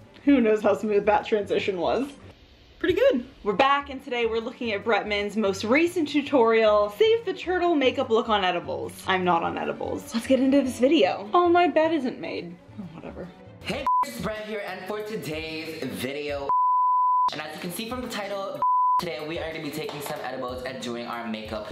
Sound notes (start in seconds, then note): 16.5 beep